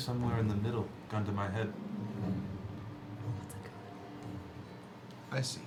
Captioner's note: whispering